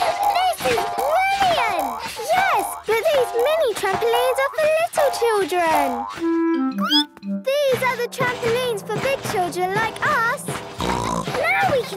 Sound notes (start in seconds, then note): 6.7 squeaks; 10.7 snorts